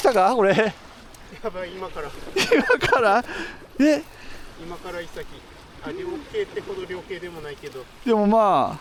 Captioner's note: laugh